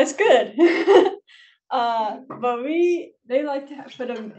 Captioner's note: laughs